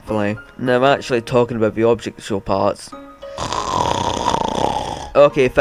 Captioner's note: snore